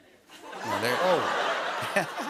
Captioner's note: laughter